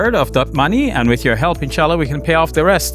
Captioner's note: speaking Arabic